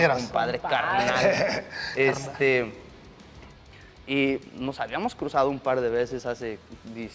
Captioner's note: laugh